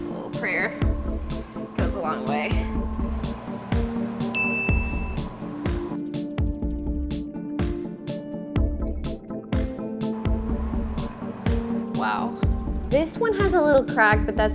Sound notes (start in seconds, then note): 4.3 bell dings; 5.6 bright music